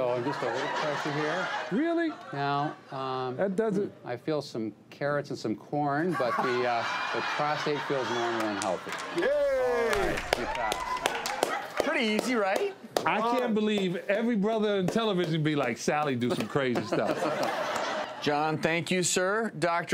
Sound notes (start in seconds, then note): 9.8 clapping; 12.1 laughing; 16.7 laughing